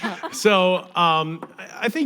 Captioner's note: audience laughing